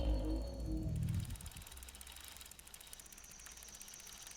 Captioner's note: bike clicking